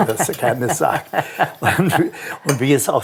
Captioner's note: laughs